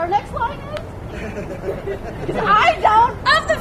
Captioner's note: audience laughter